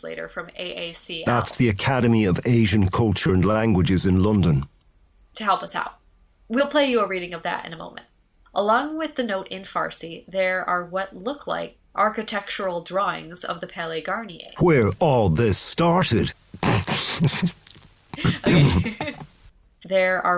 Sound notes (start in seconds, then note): 14.9 dramatically; 16.6 he laughs; 16.6 laughing